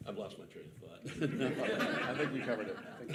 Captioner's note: participants and audience laughing